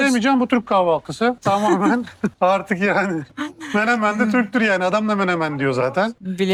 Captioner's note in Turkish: kahkaha